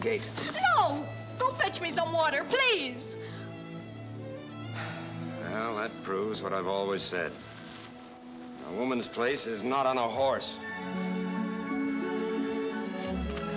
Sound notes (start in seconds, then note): 4.7 sighs